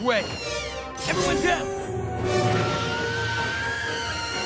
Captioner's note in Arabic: صراخ Sybaris